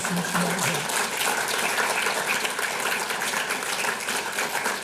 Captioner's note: audience applauds